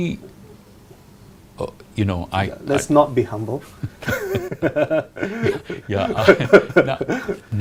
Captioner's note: both laugh